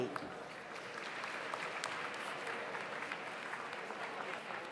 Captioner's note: audience applauds